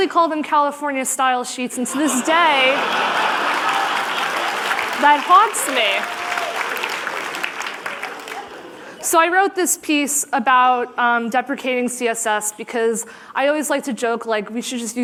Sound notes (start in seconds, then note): 7.6 applause; 7.7 laughter